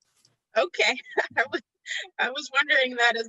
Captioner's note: laughing